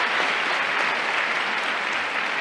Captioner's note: applause